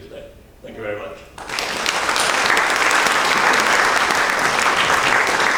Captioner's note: audience applauding